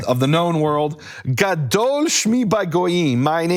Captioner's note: speaking in foreign language